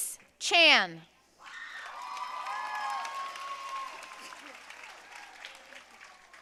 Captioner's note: audience cheering and applauding